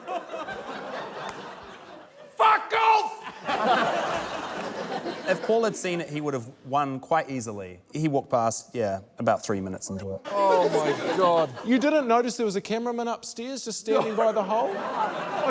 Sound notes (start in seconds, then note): 0.0 laughter continues; 3.2 laughter